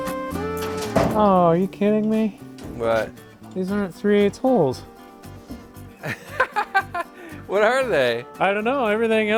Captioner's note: laughs